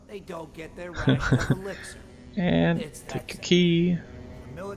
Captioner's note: chuckle